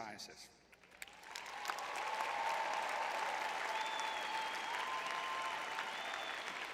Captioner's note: audience cheering